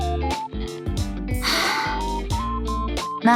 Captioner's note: sighs